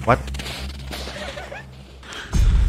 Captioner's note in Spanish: Risas